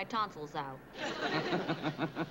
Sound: laughs

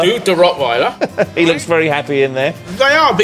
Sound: laughs

